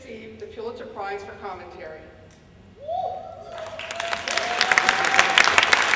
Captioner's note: applause